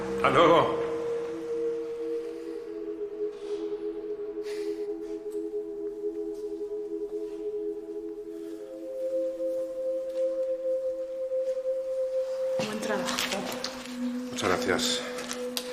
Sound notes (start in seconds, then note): 4.1 sighs